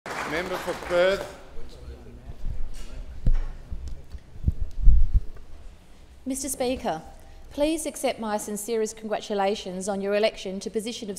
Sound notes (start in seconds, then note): 0.0 applause